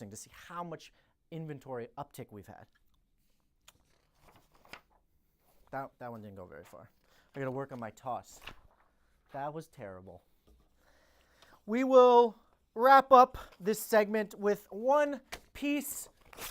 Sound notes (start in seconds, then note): 3.7 paper flapping; 7.3 paper flapping